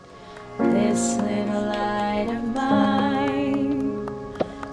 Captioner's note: clapping